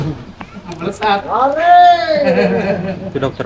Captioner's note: clap